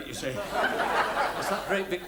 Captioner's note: audience laughs